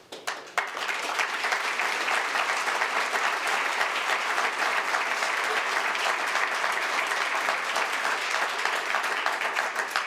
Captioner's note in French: Applaudissements